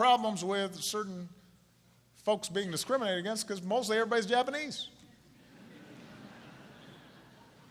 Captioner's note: laughter